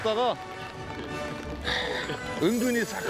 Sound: choking up

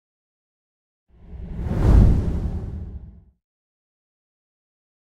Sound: sound of wind

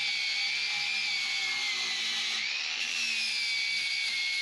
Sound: drilling

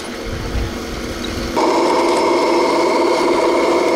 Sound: machines humming

